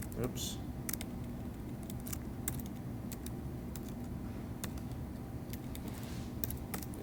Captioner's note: sounds of Typing